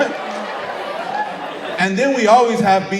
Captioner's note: audience cheering